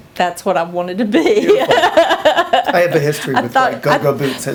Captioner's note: laughs